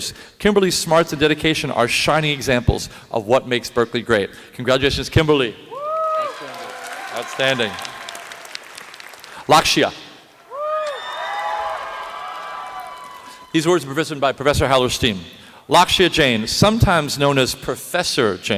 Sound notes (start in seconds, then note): 5.4 applause